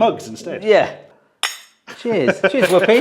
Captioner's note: mugs clank